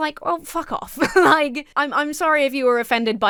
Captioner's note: laughs